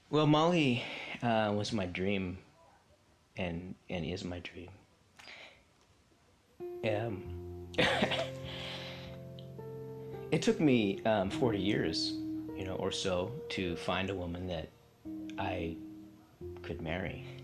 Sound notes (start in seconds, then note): 6.6 soft music; 7.7 lets out a laugh